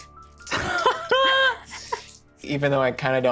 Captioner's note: Brennan laughs